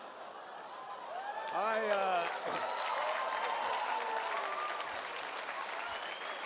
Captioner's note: laughter and applause